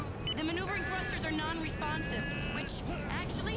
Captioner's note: grunting